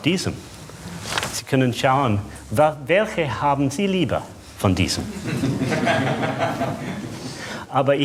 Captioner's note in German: Lachen